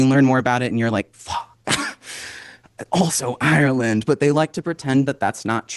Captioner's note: disgusted noise